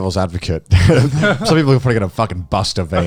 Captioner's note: chuckles